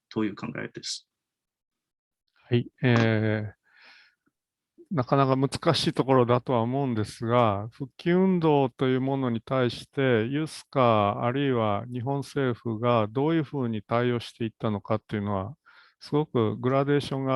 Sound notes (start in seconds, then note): 5.0 speaks in Japanese